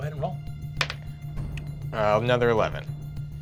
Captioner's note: rolls dice